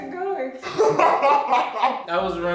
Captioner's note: evil laughter